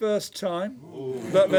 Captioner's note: oohs and ahhs